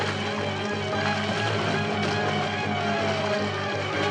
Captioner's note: police siren wailing